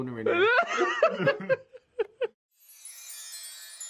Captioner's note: laughs; magical music